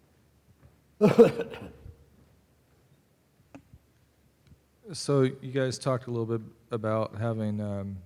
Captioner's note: cough